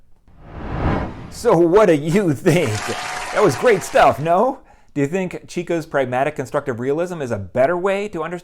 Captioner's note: applause